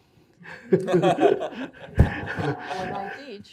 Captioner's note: all laughing